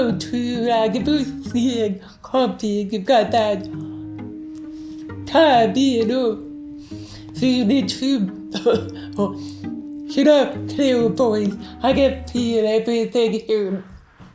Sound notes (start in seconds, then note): 8.5 cough